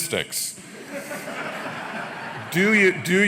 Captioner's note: laughter